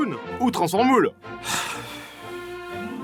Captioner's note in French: soupir